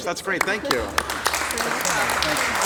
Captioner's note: applause